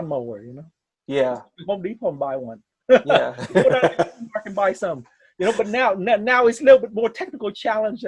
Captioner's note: laughs